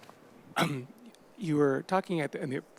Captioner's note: person clearing throat